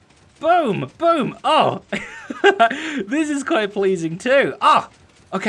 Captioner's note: laughing